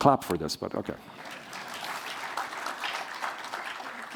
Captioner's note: applause